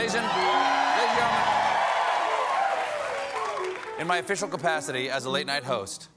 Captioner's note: cheers and applause